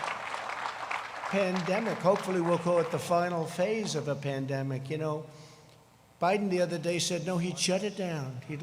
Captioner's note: applause